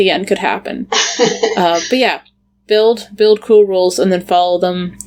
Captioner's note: laughs